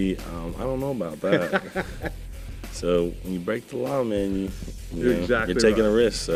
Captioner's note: laughter